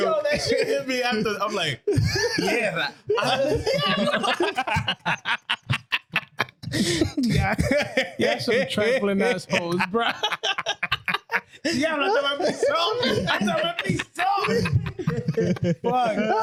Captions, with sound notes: So they should hit me after. I'm like, "Yeah." (Laughing) Got some trampolines, bro. (Laughing) (Speaking In Foreign Language) No,